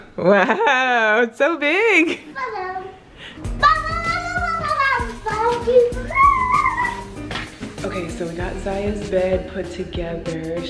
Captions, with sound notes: Wow, it's so big! (yelling) (screaming) - Okay, so we got Ziya's bed put together,